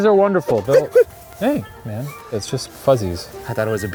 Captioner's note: sneezes